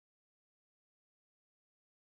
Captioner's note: none